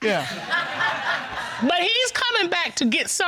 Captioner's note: audience laughs